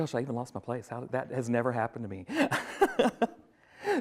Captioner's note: laughs